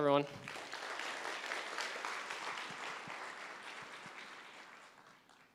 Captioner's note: applause